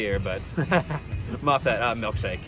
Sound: laughs

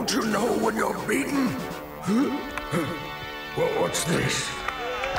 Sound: gasps

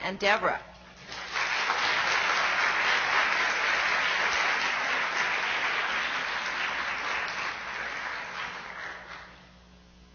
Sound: applause

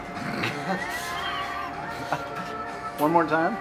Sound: man laughs

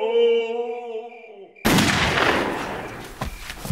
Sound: gunshot

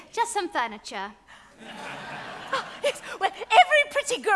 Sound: audience laughs

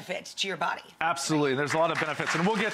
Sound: applause

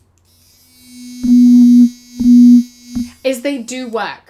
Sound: buzzing

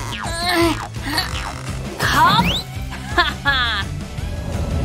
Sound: grunting

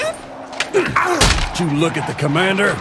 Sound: grunts in pain

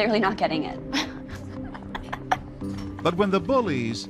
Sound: girls laughing

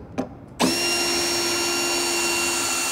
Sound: drilling

